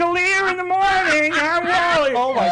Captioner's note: laughing